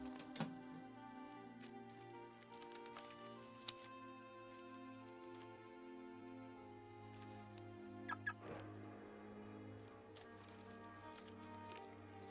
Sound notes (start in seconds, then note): 2.8 reflective music; 6.4 car beeps; 9.2 reflective music